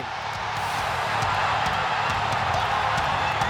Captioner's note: crowd cheers